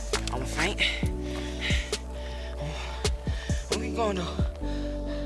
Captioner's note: breathing heavily